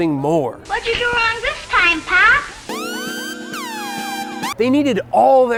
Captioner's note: Ironside sirens blare and cut abruptly